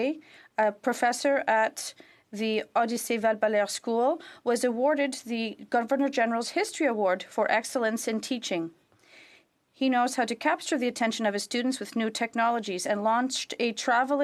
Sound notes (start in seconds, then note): 6.5 speaking French